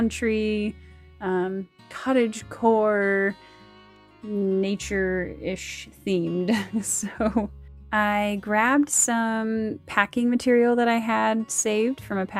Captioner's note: laughs